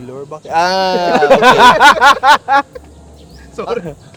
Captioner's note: laughs